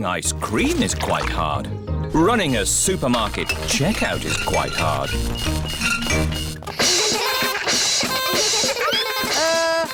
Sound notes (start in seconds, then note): 5.9 items clinking; 7.4 all laugh